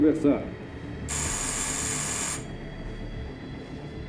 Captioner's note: buzzing continues